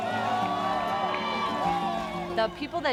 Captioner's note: people cheer